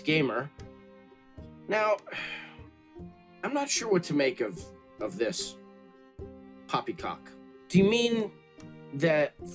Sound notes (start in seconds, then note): 2.1 sigh